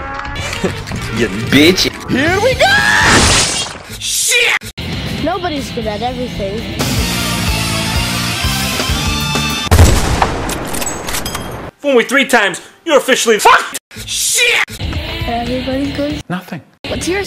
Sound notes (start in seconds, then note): 2.7 guillotine sound